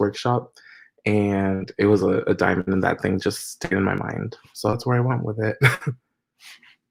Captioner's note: laughs